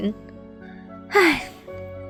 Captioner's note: sigh